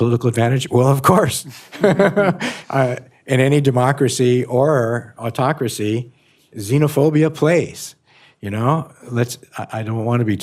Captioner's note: laughs